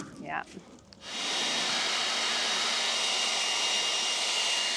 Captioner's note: metal clanking; blower buzzing